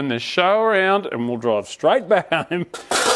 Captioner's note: laughs